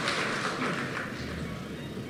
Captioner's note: applause